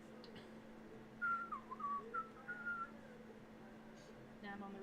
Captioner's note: whistling uncomfortably